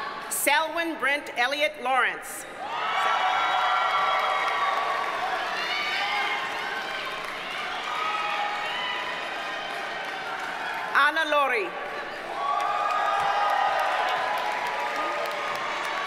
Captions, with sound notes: Selwyn Brent Elliott Lawrence. (audience cheers and applauds) Anna Lourie. (audience cheers and applauds)